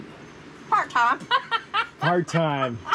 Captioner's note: laughing